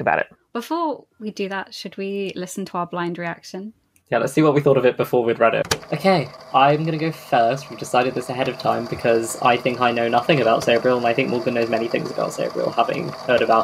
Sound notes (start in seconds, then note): 5.6 tape recorder clicks on